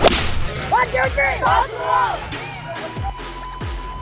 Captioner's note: cheer